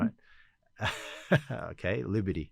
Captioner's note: son laughs